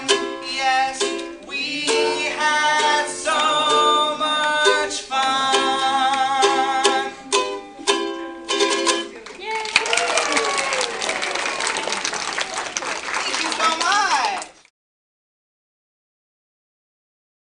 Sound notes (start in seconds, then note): 9.1 applause